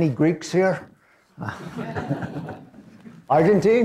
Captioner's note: laughter